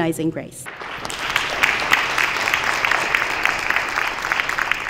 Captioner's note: applause